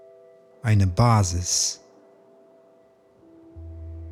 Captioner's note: german